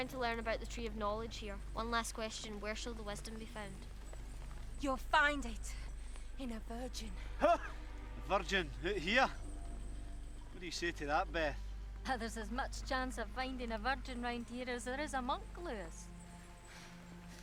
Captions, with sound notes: - I'm trying to learn about the tree of knowledge, here. One last question. Where shall the weston be found? - You'll find it in a virgin. - (laughs) A virgin, look here. What do you say to that, Beth? - Well, there's as much chance of finding a virgin around here as there is a monk, Lewis.